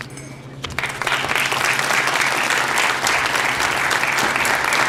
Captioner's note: applause